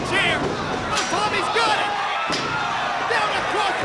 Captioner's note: chair clunks